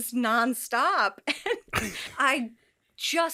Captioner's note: all laugh